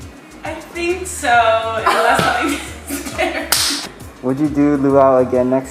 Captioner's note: laughs